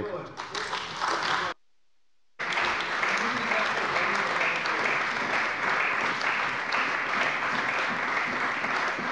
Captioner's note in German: Beifall bei der CDU und dem BÜNDNIS 90/DIE GRÜNEN